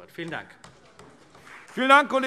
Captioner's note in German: Beifall CDU und BÜNDNIS 90/DIE GRÜNEN